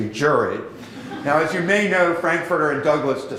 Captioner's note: laughter